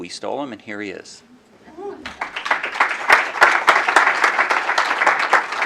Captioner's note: applause